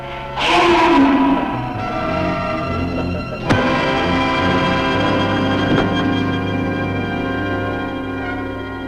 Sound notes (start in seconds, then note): 3.2 pipe thumping; 4.2 suspenseful music; 5.5 body thudding